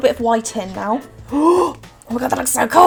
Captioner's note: gasps